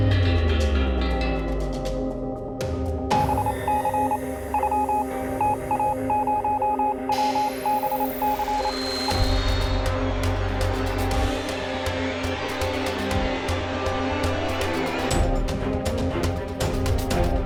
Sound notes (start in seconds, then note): 3.2 morse code beeps; 9.6 dramatic music